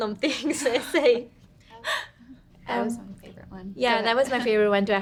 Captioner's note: women laughing